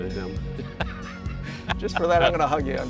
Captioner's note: laughter